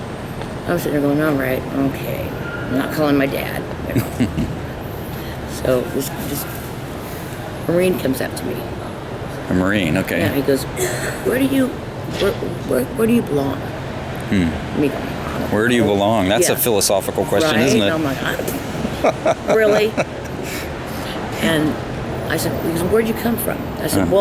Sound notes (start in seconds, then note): 17.5 both laughing